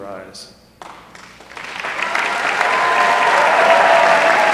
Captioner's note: applause